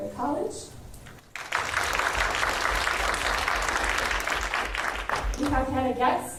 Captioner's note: applause